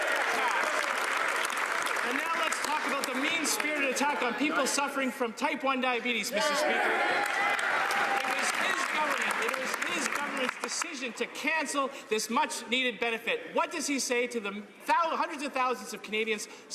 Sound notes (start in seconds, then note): 5.2 some Applause; 10.9 some Applause